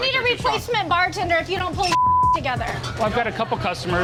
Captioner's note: beep